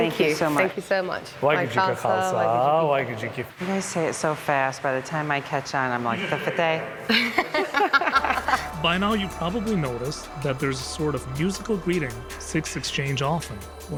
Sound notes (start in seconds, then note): 2.6 speaking foreign language; 6.2 speaking foreign language; 7.0 women laughing